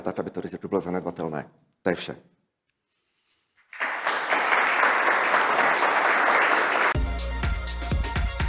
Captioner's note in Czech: Potlesk